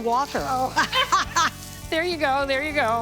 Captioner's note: people laughing